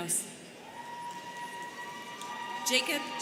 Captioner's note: students cheering